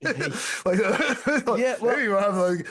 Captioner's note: laughing